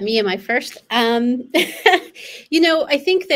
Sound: laughs

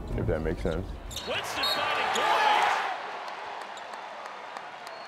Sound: crowd cheering

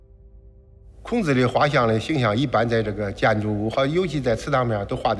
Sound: speaking Chinese

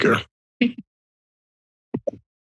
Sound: giggle

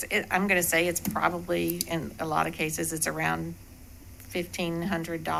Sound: mic interference

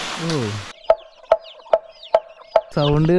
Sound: sound of wood on bamboo

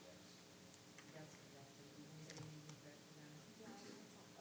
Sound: speaking distantly

